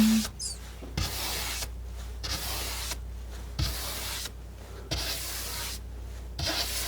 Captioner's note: scratching